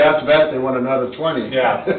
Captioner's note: laughs